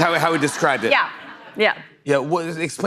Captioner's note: laughter